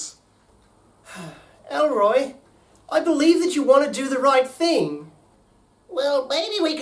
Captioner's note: sighs